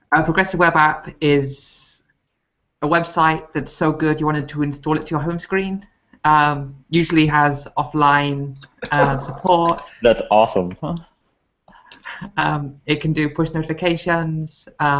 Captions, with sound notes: A progressive web app is a website that's so good, you wanted to install it to your home screen. Usually has offline support. - (laughs) That's awesome. - It can do push notifications,